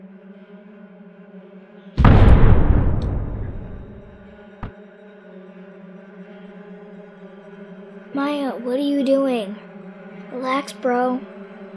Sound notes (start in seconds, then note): 2.0 loud impact